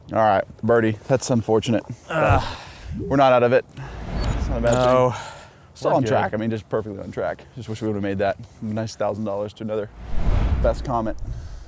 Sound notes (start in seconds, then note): 2.4 grunts